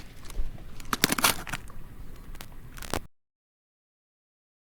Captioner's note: stones clattering; camera clicking